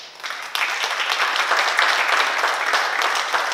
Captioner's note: oklaski